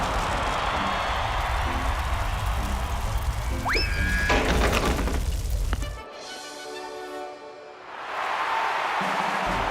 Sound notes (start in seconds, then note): 0.0 cheering; 7.8 cheering